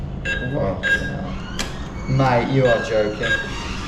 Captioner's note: ATM beeps